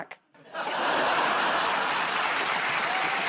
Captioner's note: laughter; cheers and applause